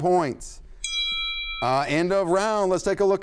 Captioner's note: bell rings